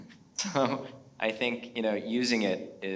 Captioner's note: chuckles